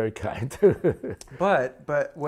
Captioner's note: laughs